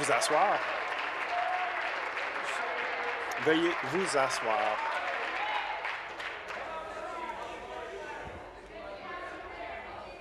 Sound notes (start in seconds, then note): 0.0 applause